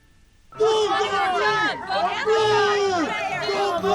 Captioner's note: crowd yells